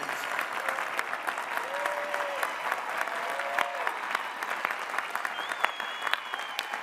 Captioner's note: applause